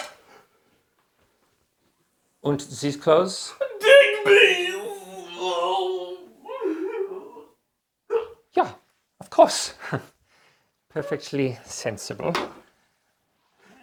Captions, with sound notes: - And these clothes? - Digby's! (sobbing) Ja, of course. Perfectly sensible.